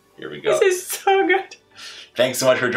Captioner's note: laughs